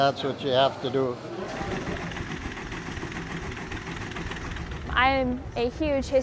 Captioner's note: tractor chugging